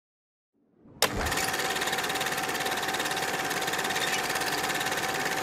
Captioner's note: film reel ticking